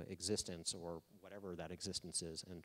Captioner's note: none